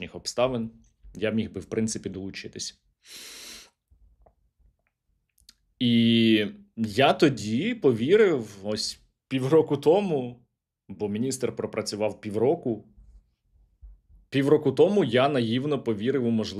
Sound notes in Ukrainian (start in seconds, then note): 3.0 сопіння